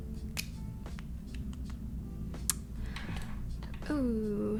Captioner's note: fingers clicking